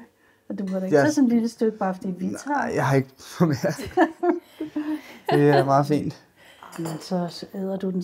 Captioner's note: laughter